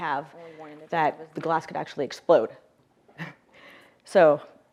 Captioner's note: laughs